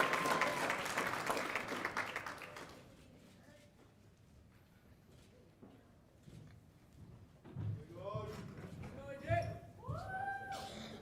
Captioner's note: cheers and applause